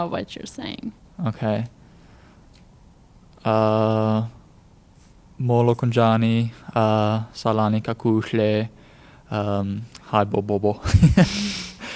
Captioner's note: speaks xhosa